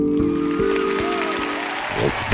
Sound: audience applause

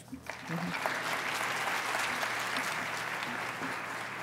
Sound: applause

